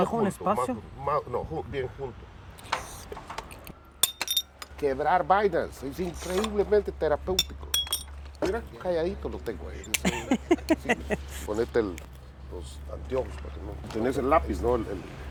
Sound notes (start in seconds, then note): 11.2 ríe